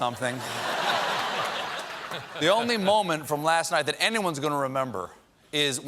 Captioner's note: laughter